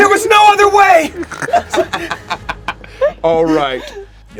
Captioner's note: laugh